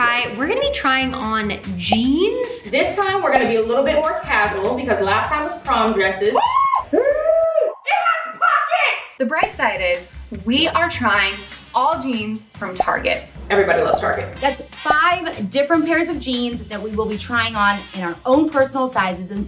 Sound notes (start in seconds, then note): 7.9 shouting